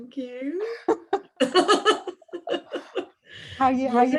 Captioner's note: laughter